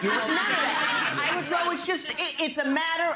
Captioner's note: audience laughs